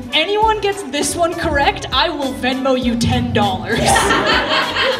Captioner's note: laughter